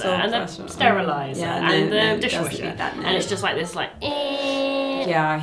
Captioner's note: hums